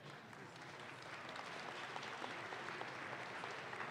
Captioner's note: audience claps